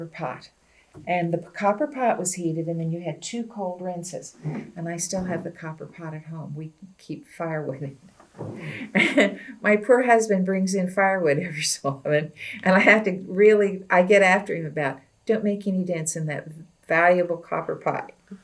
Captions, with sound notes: copper pot. The copper pot was heated and then you had two cold rinses. And I still have the copper pot at home. We keep firewood in it. (Laughs) My poor husband brings in firewood every so often, and I have to really get after him about, “Don’t make any dents in that valuable copper pot.”